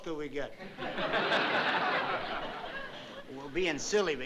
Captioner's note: laughter